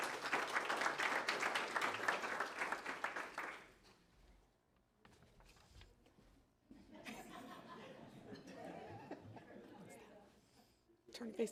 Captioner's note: applause